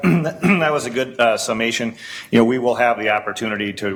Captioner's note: clears throat